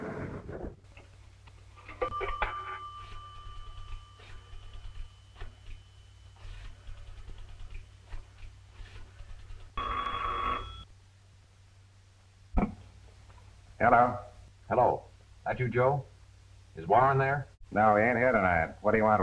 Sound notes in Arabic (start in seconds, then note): 1.9 رنين الهاتف; 3.3 طنين القرص; 9.8 يرن الهاتف